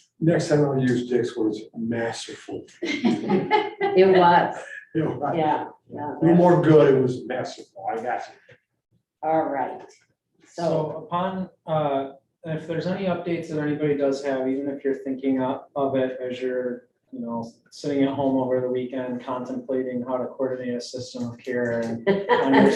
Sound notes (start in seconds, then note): 2.8 group laughing; 21.4 group laughing